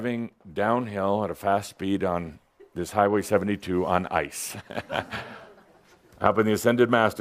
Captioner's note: Adamus chuckles